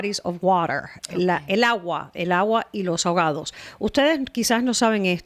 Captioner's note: Hablando ingl\s